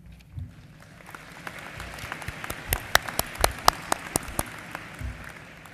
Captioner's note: applause